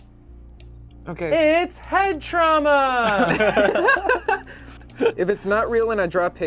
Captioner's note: group laughs